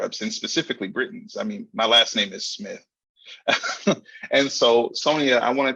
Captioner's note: laughing